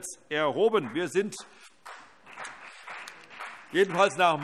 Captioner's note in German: Beifall CDU und BÜNDNIS 90/DIE GRÜNEN